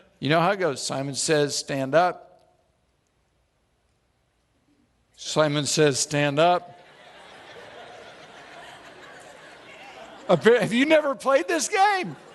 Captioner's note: audience laughs